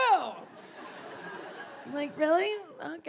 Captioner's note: audience laughing